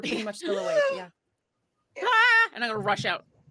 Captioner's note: gasps